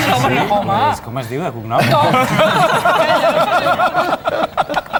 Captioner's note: laughs